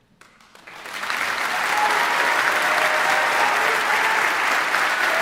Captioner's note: audience applauding